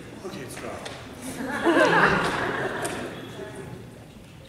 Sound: laughter

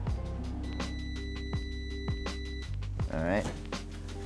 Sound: microwave beeping

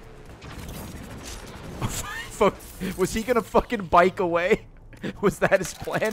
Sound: laughs

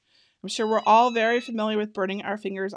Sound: EasyPress beeping

